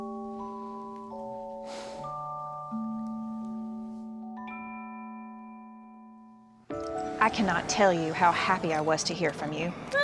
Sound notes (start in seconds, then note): 1.7 sigh